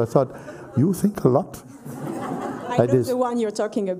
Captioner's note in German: Lachen